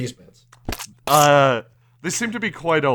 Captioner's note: squelching